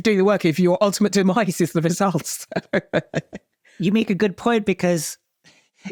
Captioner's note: chuckles